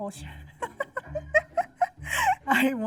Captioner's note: laughs